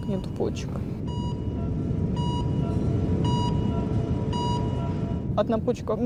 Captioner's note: sound of slow heartbeat on heart rate monitor